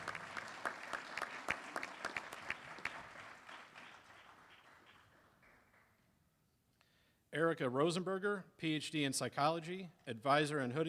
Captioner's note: applause